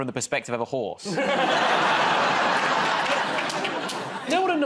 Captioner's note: laughter